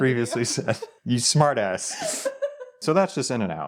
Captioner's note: wife laughing